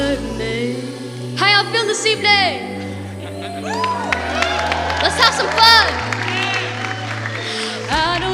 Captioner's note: applause